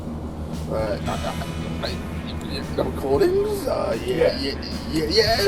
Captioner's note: spluttering & stuttering